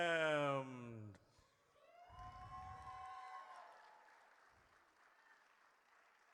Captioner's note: audience cheers